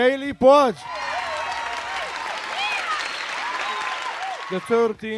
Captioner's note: audience cheering